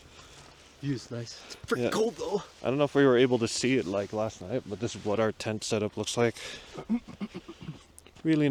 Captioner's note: coughs